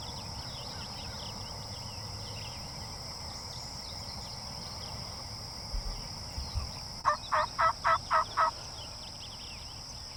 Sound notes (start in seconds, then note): 7.0 turkey calls